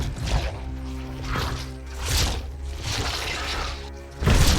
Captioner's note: tentacle sounds